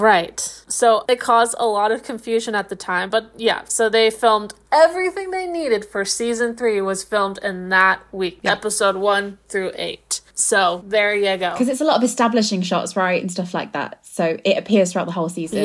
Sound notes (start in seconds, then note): none